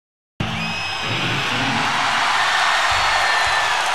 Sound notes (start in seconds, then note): 0.4 crowd cheering